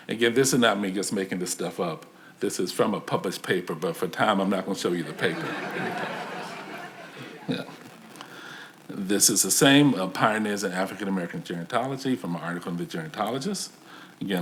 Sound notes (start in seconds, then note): 6.9 audience laughs